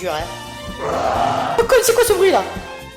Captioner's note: grumble